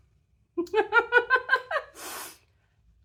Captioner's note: laughing